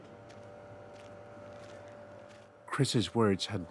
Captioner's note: footsteps thudding